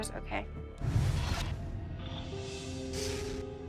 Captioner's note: haunting sounds